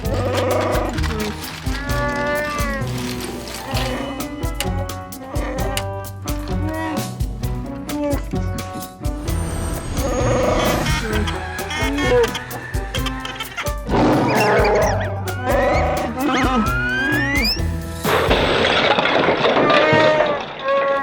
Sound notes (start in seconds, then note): 1.5 Chewbacca sounds; 10.0 Chewbacca sounds; 13.9 Chewbacca roar; 18.0 crash